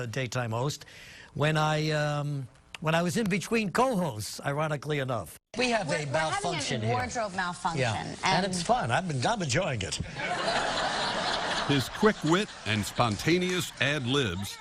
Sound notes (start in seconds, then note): 10.2 laugh